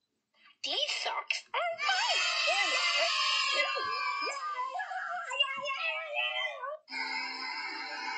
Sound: kids Cheering

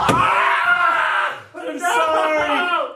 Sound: yelling

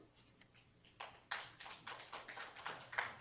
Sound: applause

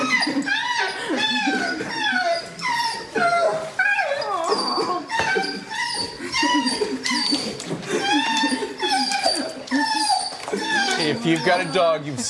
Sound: whimpering

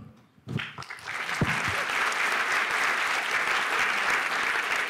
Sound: applause

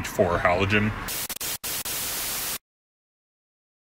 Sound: static

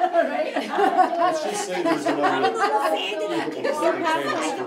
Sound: adults laughing

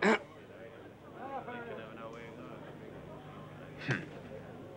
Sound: man grunts; people chattering

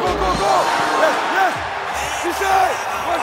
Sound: crowd cheering

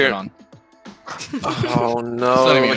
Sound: laughing

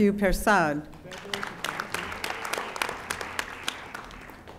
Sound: audience applauding

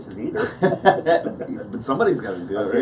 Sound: laughs

